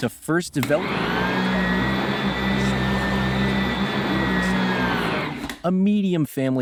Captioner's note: someone vacuuming nearby